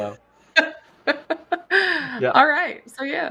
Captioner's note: laughs